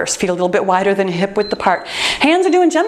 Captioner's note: timer beeps